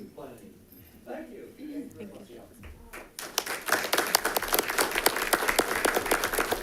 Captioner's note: all clapping